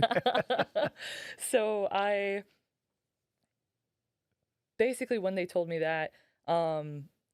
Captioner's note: laughing